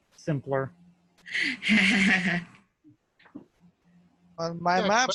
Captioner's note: laughing